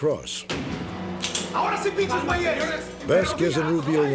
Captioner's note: speaking spanish